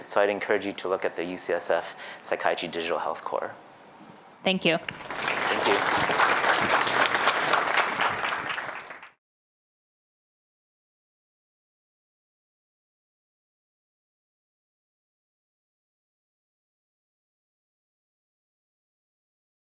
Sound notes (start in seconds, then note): 4.8 applause